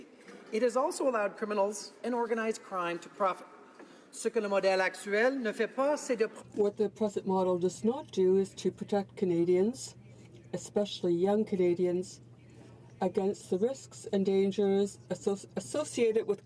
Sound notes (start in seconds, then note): 9.8 speaking french